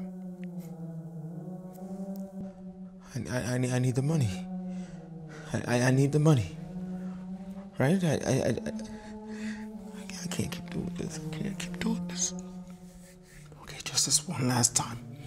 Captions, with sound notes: (stammering) I need the money. I need the money. Right? I can't keep doing this. I can't keep doing this. Okay, just this one last time.